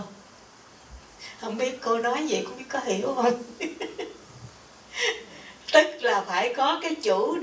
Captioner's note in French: rires